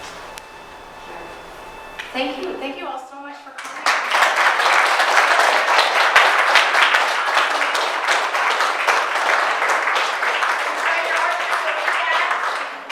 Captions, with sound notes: Yeah. Thank you, thank you all so much for coming. (audience applauding)